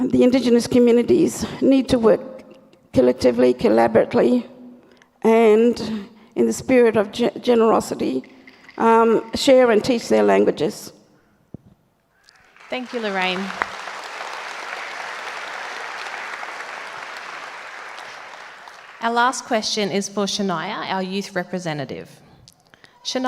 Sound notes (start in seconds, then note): 8.2 clap sticks rattle; 12.5 audience applauds